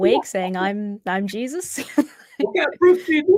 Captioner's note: chuckling